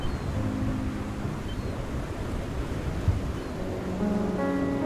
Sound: seagulls crying

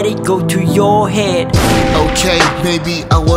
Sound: gunshot

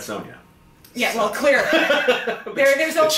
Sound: laughs

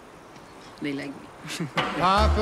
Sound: laughs

